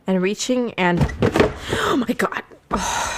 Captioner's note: sudden banging and rustling noise